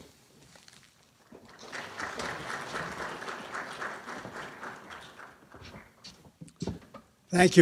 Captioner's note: clapping